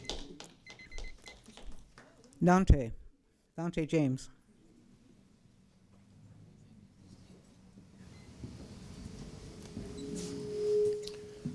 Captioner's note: applause